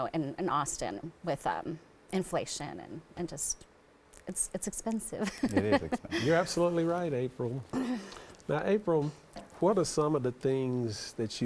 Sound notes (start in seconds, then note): 5.3 laughs